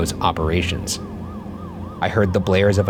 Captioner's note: sirens blaring